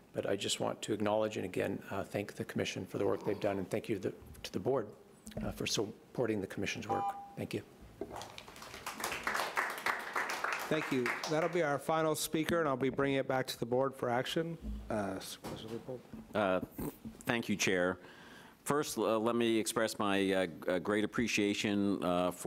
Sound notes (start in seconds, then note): 6.9 alarm beeping; 8.1 audience applauding